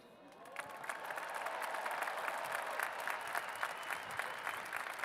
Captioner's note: cheers and applause